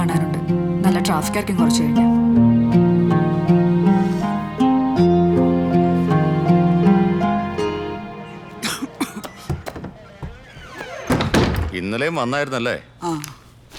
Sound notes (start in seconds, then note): 8.6 coughs; 9.1 door closes